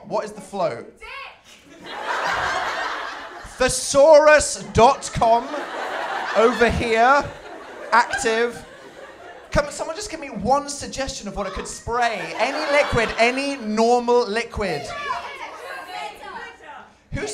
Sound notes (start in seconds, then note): 1.5 laughter